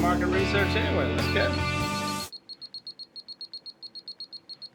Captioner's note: beeping